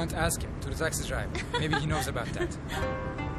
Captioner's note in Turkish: Gülüyor